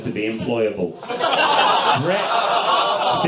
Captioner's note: audience laughs